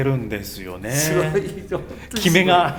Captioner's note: laughs